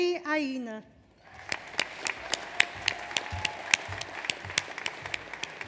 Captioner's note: audience applauds